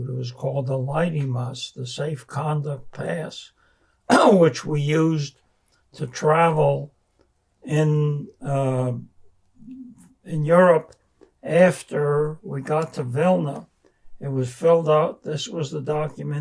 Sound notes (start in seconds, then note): 4.1 clears throat